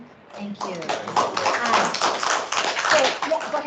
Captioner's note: clapping